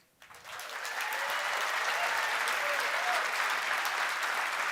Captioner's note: applause